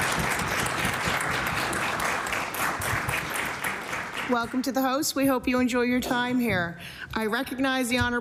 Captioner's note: applause